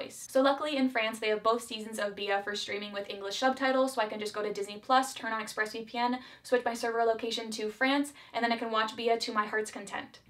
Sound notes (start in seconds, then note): none